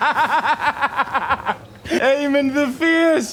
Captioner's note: laughing